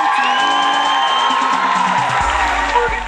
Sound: people cheers

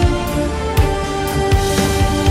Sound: none

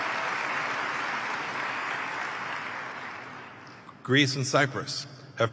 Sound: applause

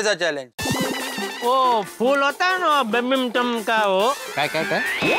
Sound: speaking gibberish

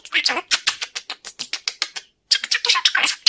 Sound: air kissing

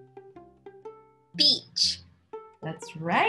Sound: automated Voice

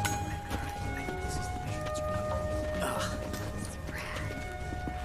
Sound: indistinct chatter

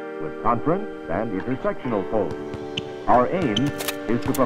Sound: balls smack; slide clicks

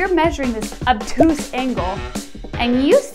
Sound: air popping

